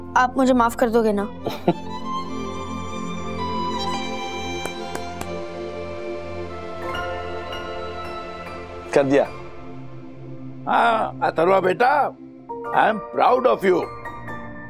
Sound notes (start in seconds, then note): 4.3 pats back